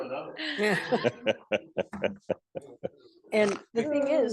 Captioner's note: group laughing